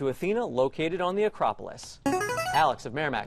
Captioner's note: player buzzer